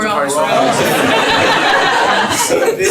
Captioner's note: laughter